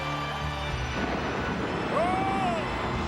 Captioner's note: thunder rumbling